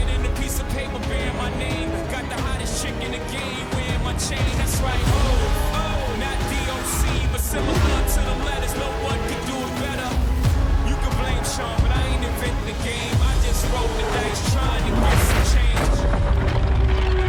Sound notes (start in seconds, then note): 3.2 continues playing